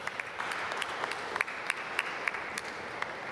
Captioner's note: applause